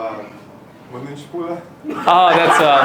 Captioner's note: attendee speaks Romanian